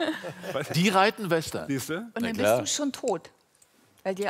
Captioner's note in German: Lachen